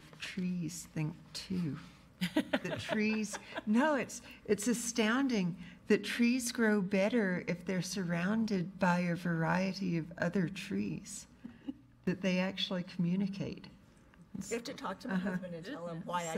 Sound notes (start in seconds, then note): 2.2 laughing